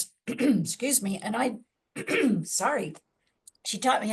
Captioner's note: clears throat